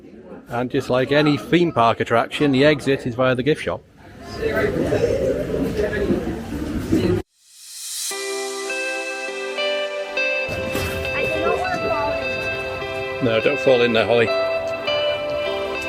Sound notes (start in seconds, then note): 4.7 indistinct background chattering; 7.6 upbeat music